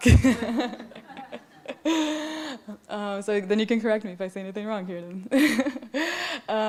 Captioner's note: laughs